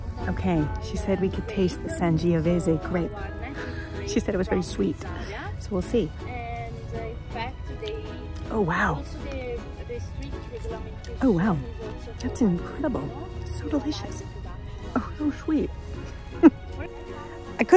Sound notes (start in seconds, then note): 9.3 person chattering; 16.1 chuckles